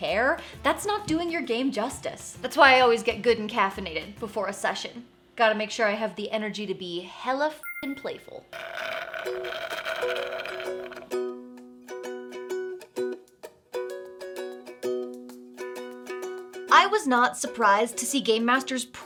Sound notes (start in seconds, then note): 8.6 slurping; 10.3 bright music